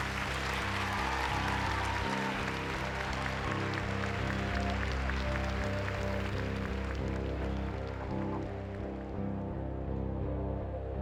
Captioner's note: cheers and applause